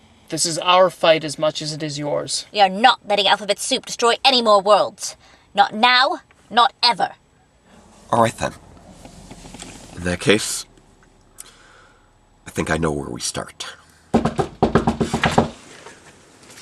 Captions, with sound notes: This is our fight as much as it is yours. We are not letting Alphabet Soup destroy any more worlds. Not now. Not ever. All right, then. In that case... I think I know where we start. [Knocking] [Door]